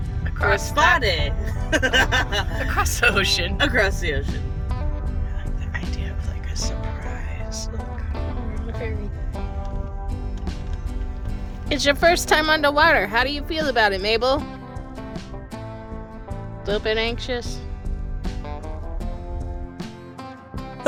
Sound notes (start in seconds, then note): 3.6 laughs